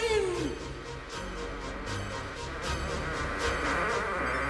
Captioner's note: doors creaking